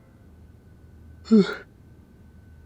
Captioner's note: yawning